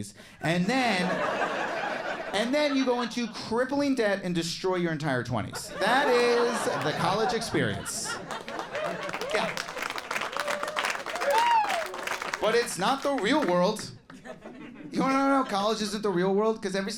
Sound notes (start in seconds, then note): 0.8 audience laughs; 6.0 crowd laughs; 8.0 crown claps and cheers; 14.4 scattered giggles